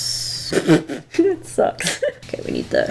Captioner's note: laughs